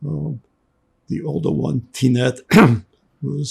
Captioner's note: clears throat